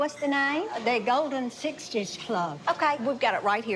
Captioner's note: none